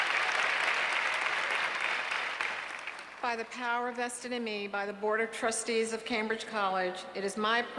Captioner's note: applause